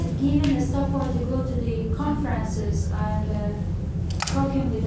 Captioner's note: faint speaking off mic